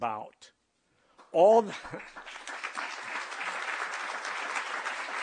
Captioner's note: applause